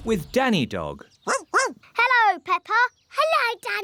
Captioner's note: barking